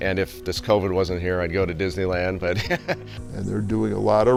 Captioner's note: chuckles